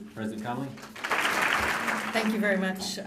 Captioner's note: applause